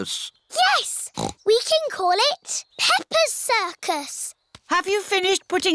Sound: snorts

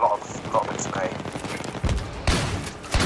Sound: none

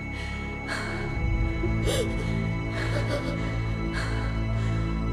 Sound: gasps, shaky exhale

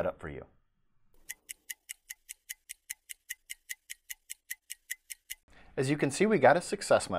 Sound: clock ticking

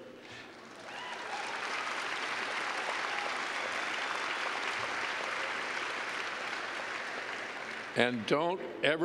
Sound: cheers and clapping

